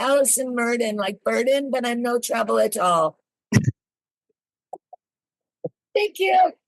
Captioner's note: laughs